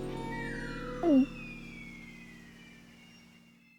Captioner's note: gulps